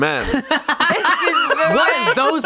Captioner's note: everyone laughs